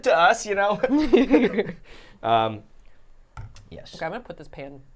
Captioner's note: all laughing